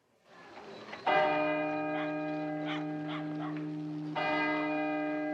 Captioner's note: CLOCK CHIMlNG